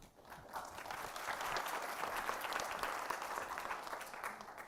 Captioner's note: audience applauding